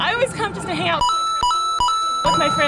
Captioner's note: mario coin noise